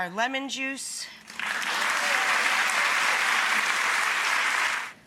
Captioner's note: audience applauds